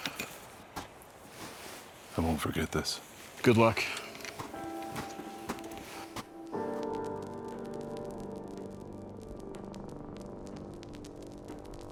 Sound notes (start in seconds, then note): 4.7 footsteps thudding; 7.0 soft music